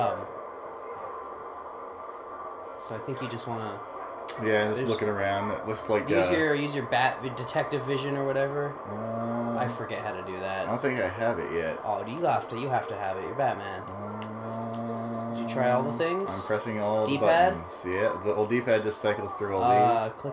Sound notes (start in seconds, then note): 14.6 clicking Buttons